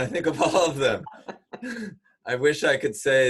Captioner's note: laughs